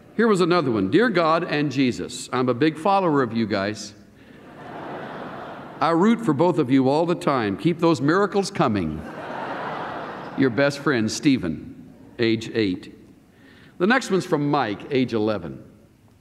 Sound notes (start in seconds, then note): 4.4 laughter; 9.0 laughter